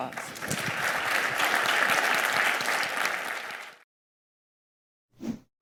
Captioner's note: audience applauding